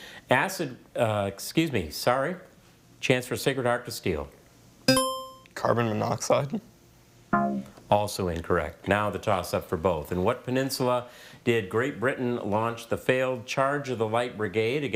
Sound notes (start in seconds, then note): 4.9 buzzer chimes; 7.4 scoreboard buzzes